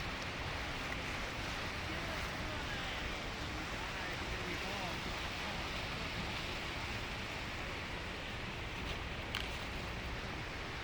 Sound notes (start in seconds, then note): 3.0 water rushing